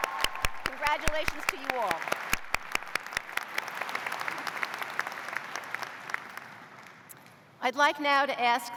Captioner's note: cheers and applause